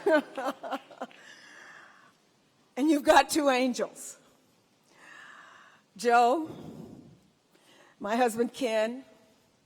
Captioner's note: laughter